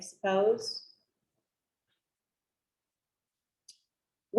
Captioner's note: silence